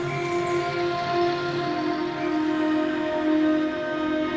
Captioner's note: whistle blowing, engines rumbling